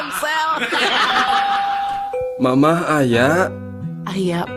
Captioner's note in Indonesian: tertawa